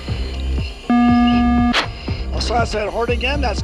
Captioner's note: aircraft system beeps